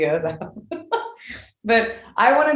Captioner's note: laughing